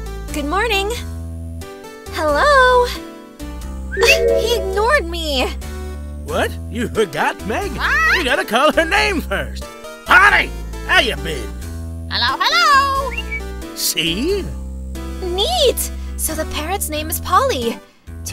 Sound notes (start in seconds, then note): 13.2 whistle